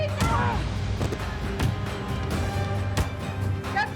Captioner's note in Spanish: Golpes